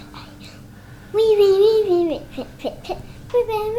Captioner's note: babbling